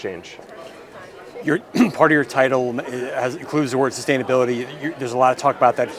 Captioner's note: cough